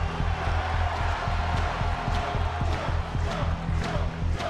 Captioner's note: audience cheering